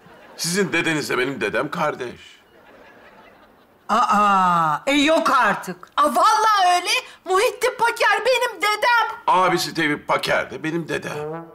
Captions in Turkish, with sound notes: Sizin dedenizle benim dedemle kardeş? (Gülme sesi) Aa yok artık? Vallahi öyle. Muhittin Paker benim dedem. Abisi Tevfik Paker de benim dedem.